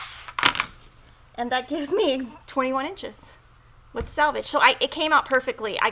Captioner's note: chuckles